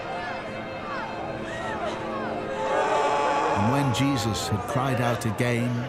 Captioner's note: crowd cheering